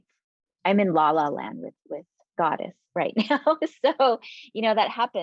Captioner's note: chuckling